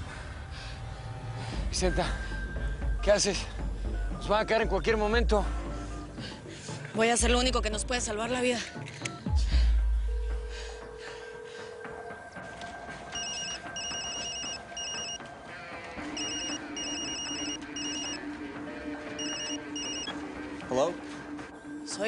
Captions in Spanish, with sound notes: - VICENTA, ¿QUE HACES? NOS VAN A CAER EN CUALQUIER MOMENTO. - VOY A HACER LO UNICO QUE NOS PUEDE SALVAR LA VIDA. [Timbre en la línea] [Suena el teléfono] - HOLA.